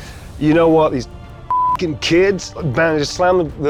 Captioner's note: beep